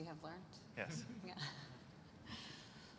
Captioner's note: laughter